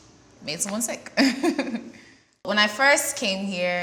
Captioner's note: laughs